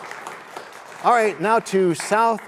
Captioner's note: cheers and applause